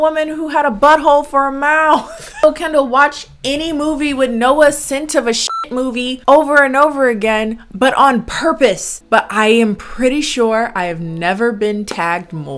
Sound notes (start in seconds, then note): 5.4 beep